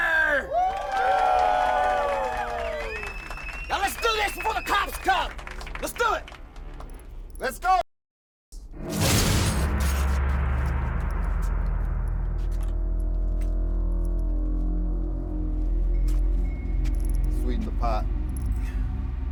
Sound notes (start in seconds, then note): 0.0 crowd cheers; 8.9 dramatic musical score; 11.9 ominous music